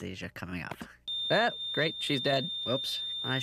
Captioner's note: flat line sounds